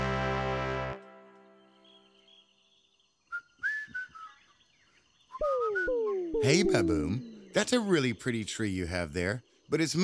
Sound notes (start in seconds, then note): 1.4 birds chirping; 4.9 whistling